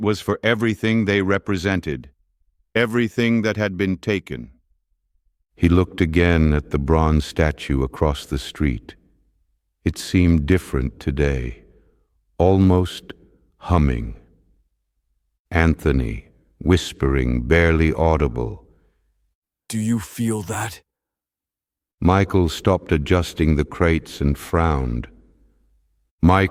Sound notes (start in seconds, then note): 16.3 whispering, barely audible